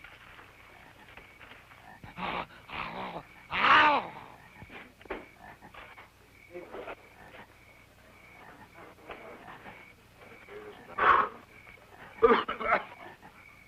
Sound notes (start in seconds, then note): 1.7 grunting